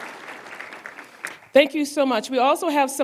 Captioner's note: applause